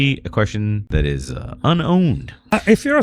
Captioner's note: uh